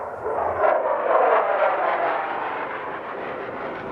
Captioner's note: plane flying